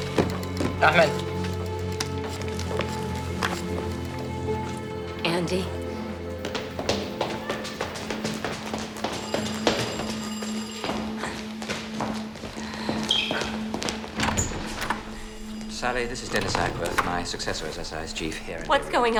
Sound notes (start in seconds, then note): 0.1 officer speaking foreign language; 8.5 phone ringing